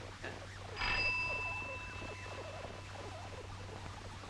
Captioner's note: doorbell rings